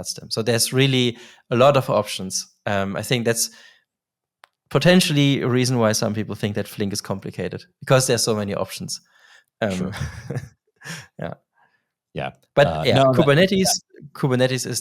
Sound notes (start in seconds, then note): 9.7 chuckling